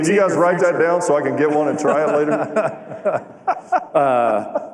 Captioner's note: laughter